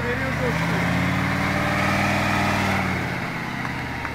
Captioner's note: revving up the engine